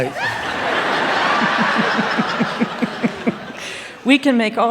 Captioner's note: laughter